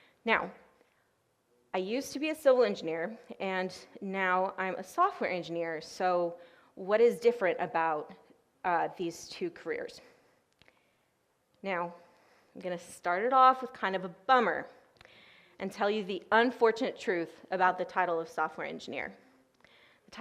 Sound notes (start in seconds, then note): none